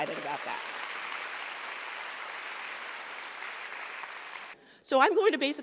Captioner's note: audience clapping